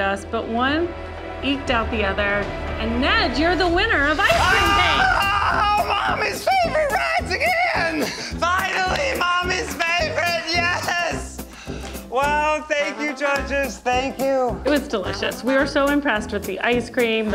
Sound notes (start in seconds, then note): 4.6 shouting